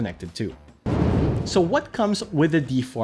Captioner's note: air whooshing